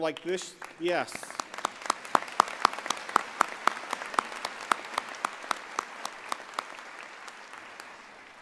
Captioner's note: applause